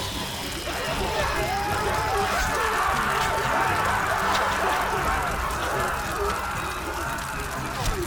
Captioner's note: panicked screams